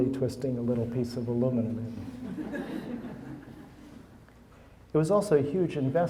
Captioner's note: audience laughing